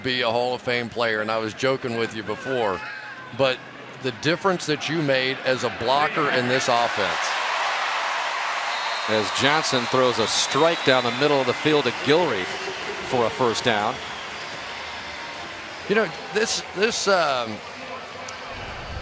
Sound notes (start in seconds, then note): 7.7 cheering